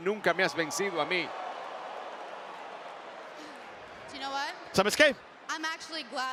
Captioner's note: applause